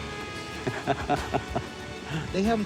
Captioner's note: laughs